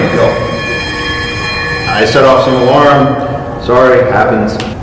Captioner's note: ringing alarm stops